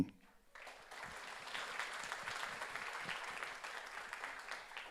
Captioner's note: audience applauds